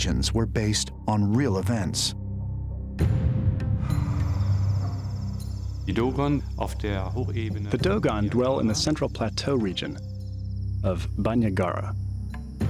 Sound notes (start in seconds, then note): 6.0 non-english speech